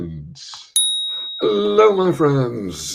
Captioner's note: bing!